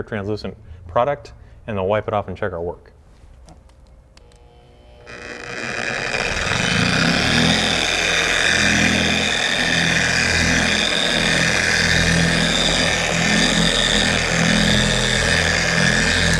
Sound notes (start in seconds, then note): 4.7 buzzing sound